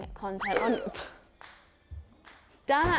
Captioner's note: ball bouncing